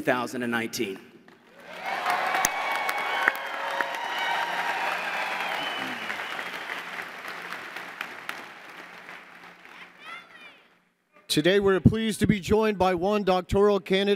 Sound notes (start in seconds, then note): 1.5 cheers and Applause